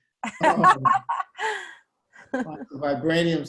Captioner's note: laughter